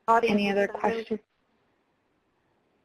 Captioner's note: voiceover